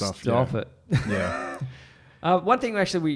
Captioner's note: laughs